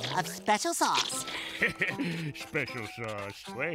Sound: laughing

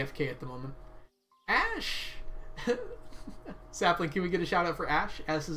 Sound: laughs

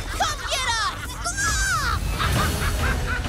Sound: gizmo yells; evil mogwai cackling

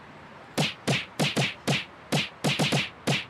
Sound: hammer whacking

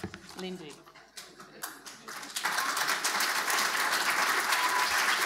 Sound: audience applauding

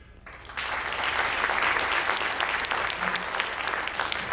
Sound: audience applauding

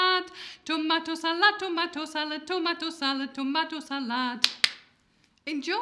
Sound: clap, clap

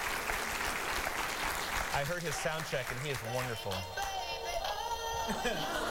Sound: applause

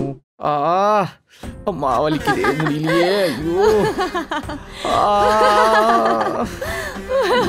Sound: crying out of pain

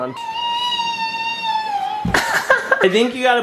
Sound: screams

